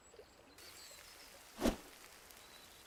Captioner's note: sizzling